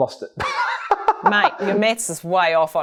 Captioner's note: laughing